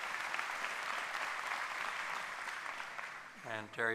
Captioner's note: applause